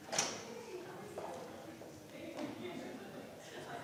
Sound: crowd chattering

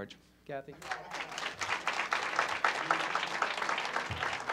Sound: crowd clapping

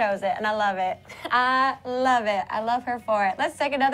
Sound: laughter

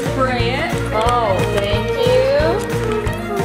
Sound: combs tapping

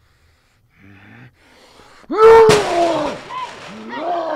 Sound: growls

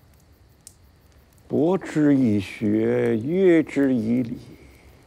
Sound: speaking Chinese

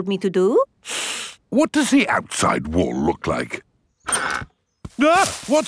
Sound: inhales sharply; exclaims

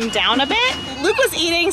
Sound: car engine starting

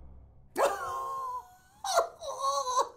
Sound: laughs

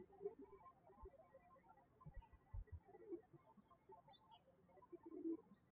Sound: birds chirping

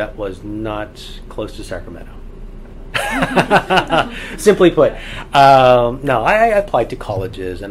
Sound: all laugh

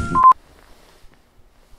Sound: beep

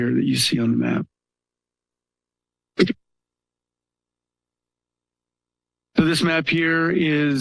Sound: pause

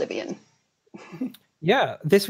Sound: laughs

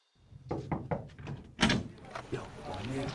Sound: knocking

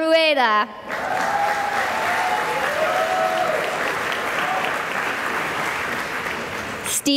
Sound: cheering and applause

